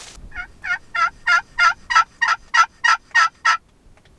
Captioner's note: turkey calling